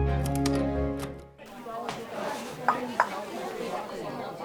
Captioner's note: classroom chatter